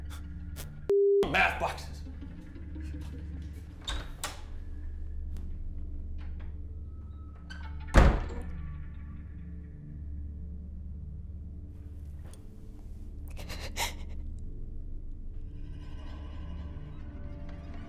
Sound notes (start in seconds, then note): 0.0 scoffs; 1.4 tense music continues; 3.9 door clicks and thuds; 13.2 Dr. Tawny sobbing